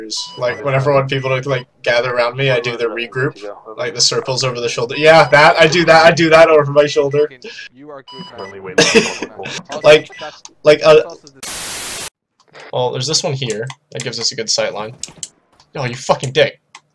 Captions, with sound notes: Like, whenever I want people to like, gather round me I do the regroup? Like, the circles over the shoulder-YEAH! That! I do that! I do that over my shoulder! You are good man. You're a good man. Well there's this one here, that gives us a good sightline- *gunfire* Oh, you fuckin' dick!